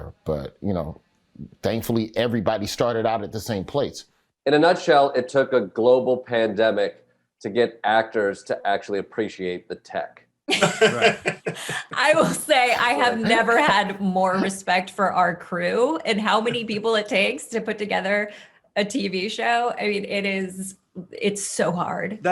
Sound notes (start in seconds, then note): 10.5 Desi and Eric laughing